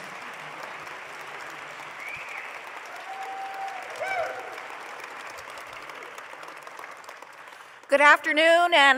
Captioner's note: applause